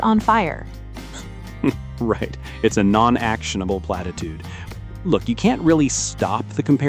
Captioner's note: laughs